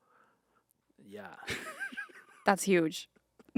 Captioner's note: Anthony laughing